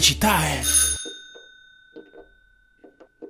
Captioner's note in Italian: suonano al campanello